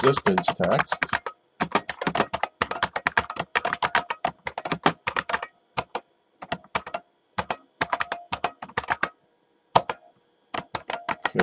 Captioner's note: typing